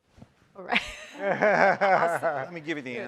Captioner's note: chuckles; laughing